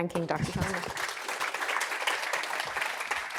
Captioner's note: applause